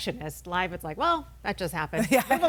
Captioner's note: laughs